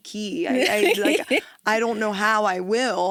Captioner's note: laughs